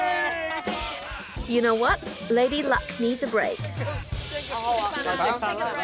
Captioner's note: laughs; all exclaim